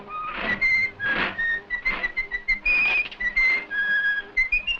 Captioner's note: Mickey whistling cheerfully